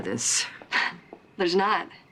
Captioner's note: scoffs